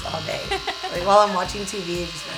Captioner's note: laughs